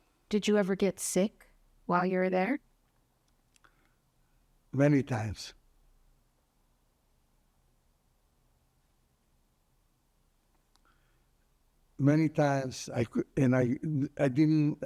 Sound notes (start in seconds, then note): 5.6 pauses 6 seconds